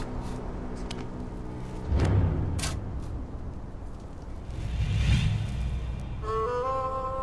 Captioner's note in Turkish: Kürek Sesleri